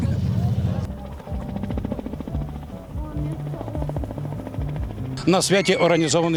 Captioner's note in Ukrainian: звук гвинтокрила